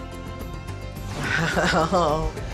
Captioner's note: laughing